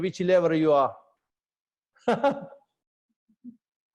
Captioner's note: laughter